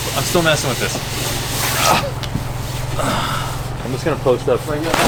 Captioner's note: grunting